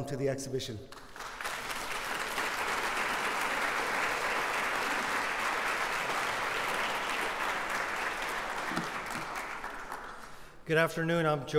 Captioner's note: applause